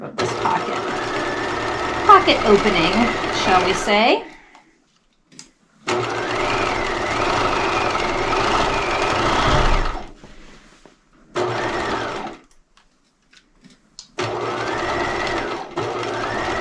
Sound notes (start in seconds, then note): 5.8 sewing machine humming